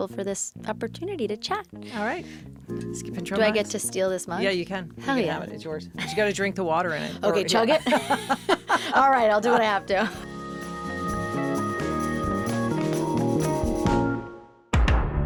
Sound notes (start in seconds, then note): 9.1 interviewer and Zoe laugh; 11.9 smooth music